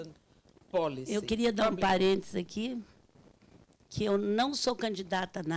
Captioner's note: speaking Portuguese